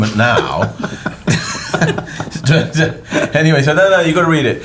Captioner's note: laughter